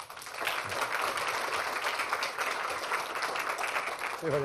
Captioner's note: applause